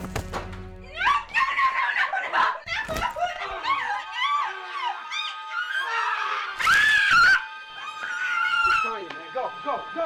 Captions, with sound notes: (screams) - It's Tonja! Let's go!